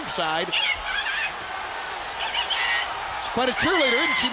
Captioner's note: crowd cheering